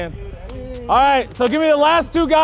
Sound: man clapping

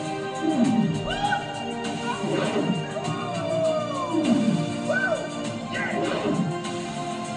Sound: whooping

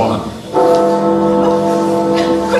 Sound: Big Ben tolls

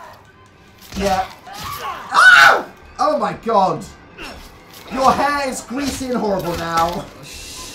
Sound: screams

